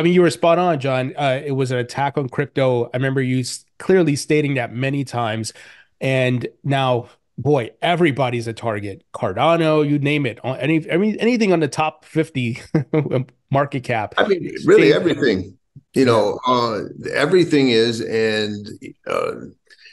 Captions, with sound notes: Yeah. I mean, you were spot on, John. It was an attack on crypto. I remember you clearly stating that many times. And now, boy, everybody's a target. Cardano, you name it. I mean anything on the top 50 (chuckles) market cap. - I mean, really everything. You know, everything is and..